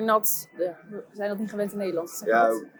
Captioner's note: speaking Dutch